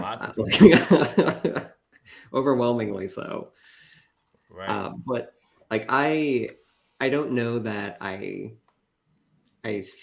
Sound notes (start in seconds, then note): 0.2 laughs